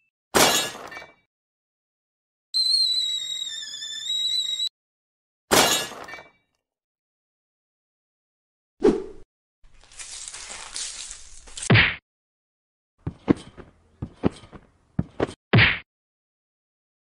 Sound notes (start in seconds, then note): 8.7 woosh; 9.8 broom Cleaning Sound Effect.MP3; 11.6 hit Sound; 13.0 jumping Sound